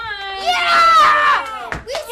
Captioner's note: shouting